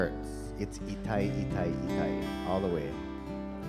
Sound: speaking in Hawaiian

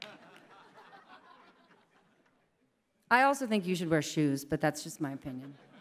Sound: applause

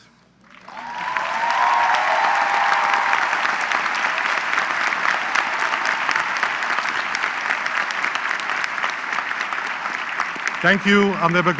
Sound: applause

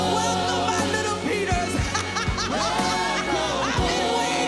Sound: laughs

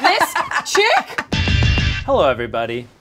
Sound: laughs

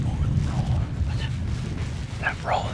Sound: whispering

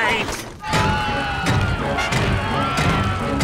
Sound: screaming

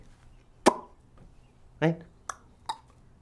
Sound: makes popping sound

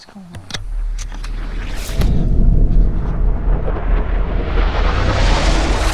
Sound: atmosphere whooshing

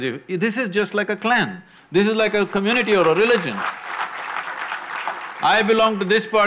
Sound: applause

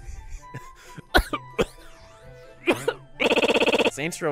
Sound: cough

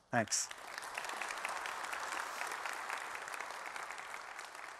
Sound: applause

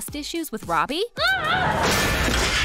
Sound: shouting

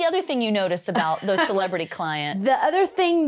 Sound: chuckles

